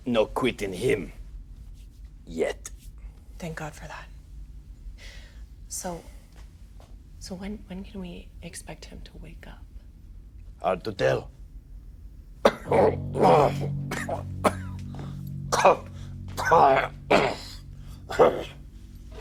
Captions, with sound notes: No quit in him. Yet. - Thank God for that. So... So, when, when can we expect him to wake up? - Hard to tell. (Nash coughs) (ominous music) (Nash grunts)